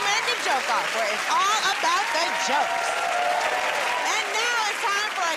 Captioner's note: cheers and applause